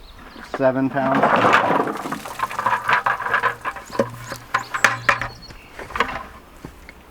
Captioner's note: carrots tumbling; water splashing